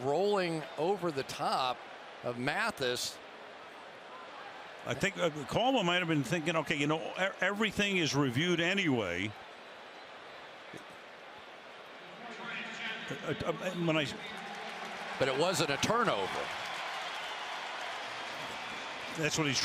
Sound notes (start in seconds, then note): 12.5 referee call; 16.9 cheers, applause